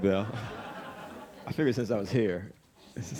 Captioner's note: audience laughing